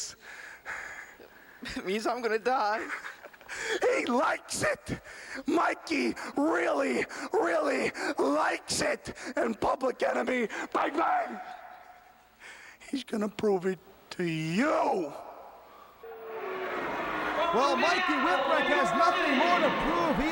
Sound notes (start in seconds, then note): 16.0 crowd cheering